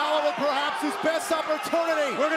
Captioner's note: crowd cheering